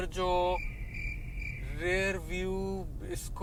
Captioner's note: crickets Chirping